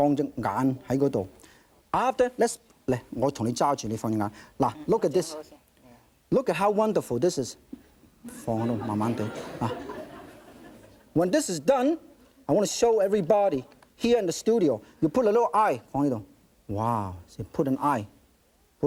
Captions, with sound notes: (speaking in foreign language) After, let's (speaking in foreign language). Now look at this. (speaking in foreign language) Look at how wonderful this is. (speaking in foreign language) (audience laughing) When this is done, I wanna show everybody here in the studio. You put a little eye on the, wow. See, put an eye, put an eye.